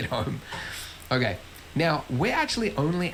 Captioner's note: laughs